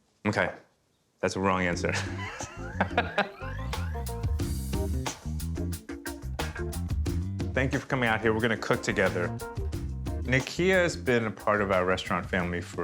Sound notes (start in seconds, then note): 1.9 both laughing; 4.2 soft music